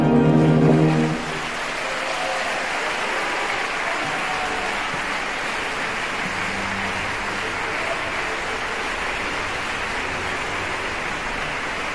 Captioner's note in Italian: applausissimo